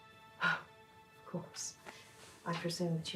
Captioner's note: somber music; sighs